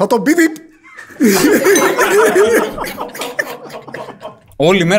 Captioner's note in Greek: γέλια